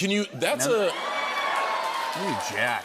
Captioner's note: cheers and applause